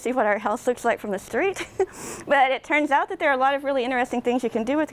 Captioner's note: laughs